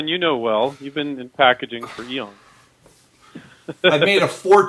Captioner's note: laughs